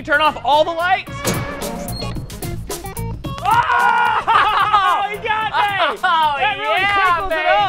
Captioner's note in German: shouting